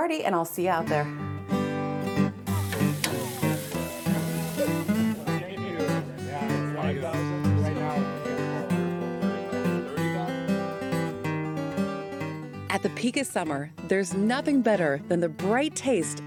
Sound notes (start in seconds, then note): 2.5 people chatting; 3.4 upbeat folksy music